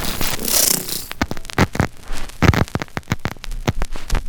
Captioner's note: static crackling